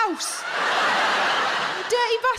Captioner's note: audience laughs